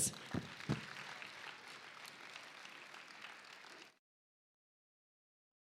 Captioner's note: applause